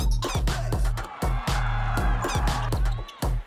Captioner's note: cheering; upbeat music